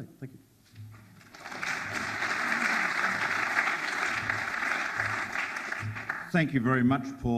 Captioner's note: audience applauds